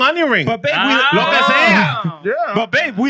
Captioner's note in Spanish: Hablando en idioma extranjero